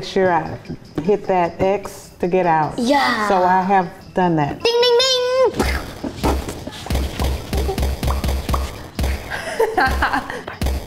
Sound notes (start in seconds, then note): 5.5 popping noises; 5.5 punching noises; 9.2 laughing off camera